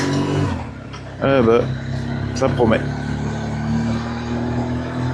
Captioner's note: engine